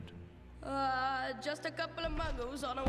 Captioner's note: mimics English accent